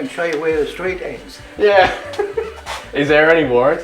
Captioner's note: he laughs